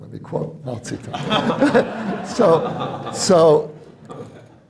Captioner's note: laughter